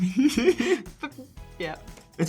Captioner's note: Sean laughs